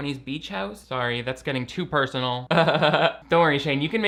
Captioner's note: laughing